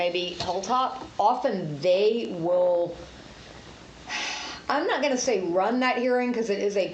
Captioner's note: sighs